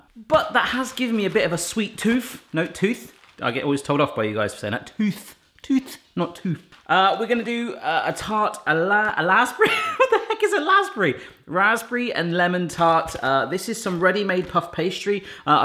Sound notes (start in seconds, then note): 9.6 laughs